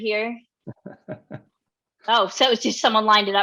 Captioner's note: laughing softly